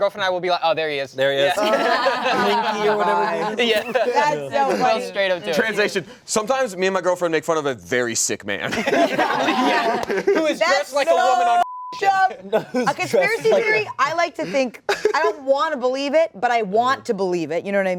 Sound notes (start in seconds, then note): 1.5 laughter; 8.6 laughter